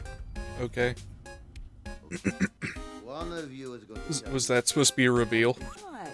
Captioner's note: clearing throat